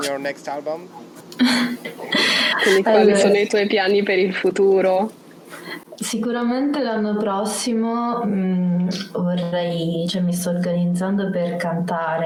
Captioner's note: speaks Italian